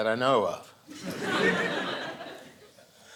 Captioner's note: audience laughing